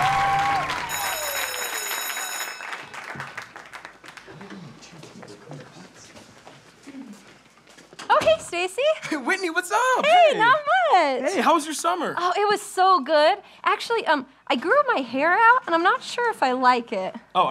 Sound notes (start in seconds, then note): 0.8 school bell ring